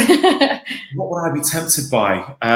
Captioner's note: laughing